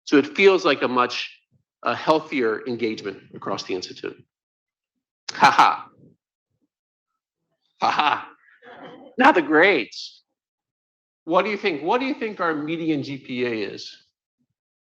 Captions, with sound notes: So it feels like a much healthier engagement across the Institute. (laughs) (laughter) Now the grades. What do you think? What do you think our median GPA is?